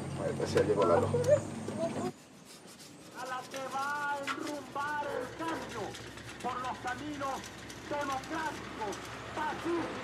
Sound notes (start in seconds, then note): 2.9 person giving speech on radio